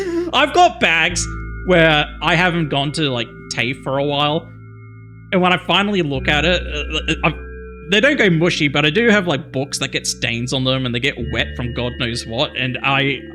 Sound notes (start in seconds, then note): 0.0 laughs; 6.7 stutters